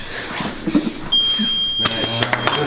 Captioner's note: beep; voiceover